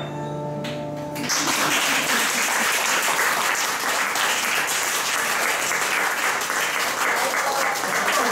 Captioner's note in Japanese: 拍手！！